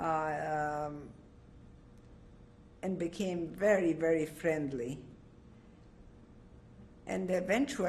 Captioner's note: pauses for 3 seconds